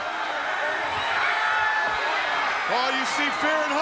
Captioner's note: audience cheering